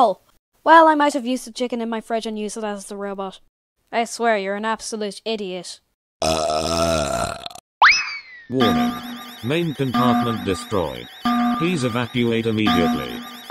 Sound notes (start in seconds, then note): 6.2 burp; 8.5 alarm